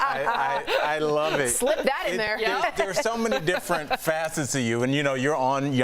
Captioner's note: laughter